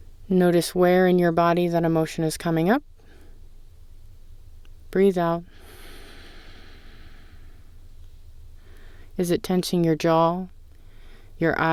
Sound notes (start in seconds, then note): 5.5 exhale